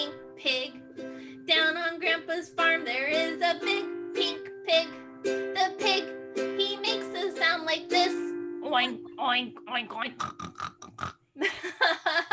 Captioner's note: pig noises